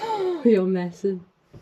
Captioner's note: gasp